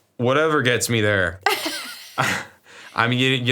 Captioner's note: both laugh